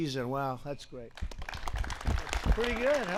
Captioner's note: applause